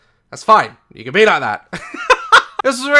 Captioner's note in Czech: smích